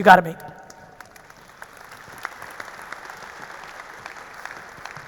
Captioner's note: audience applauding